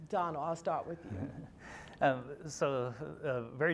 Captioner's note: laughs